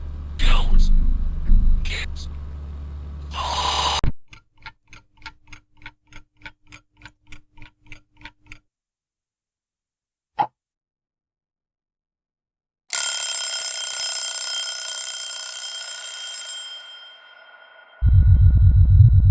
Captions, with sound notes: Don't get caught. (clock ticking) (alarm ringing)